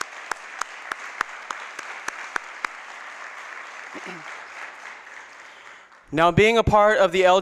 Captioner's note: applause